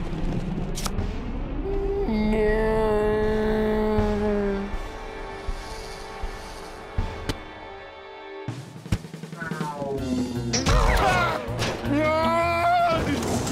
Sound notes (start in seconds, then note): 10.0 boing